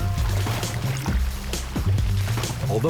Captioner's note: water splashing